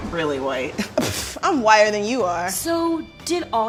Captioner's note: scoffs